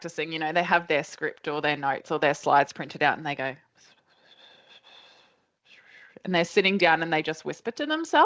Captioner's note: whispering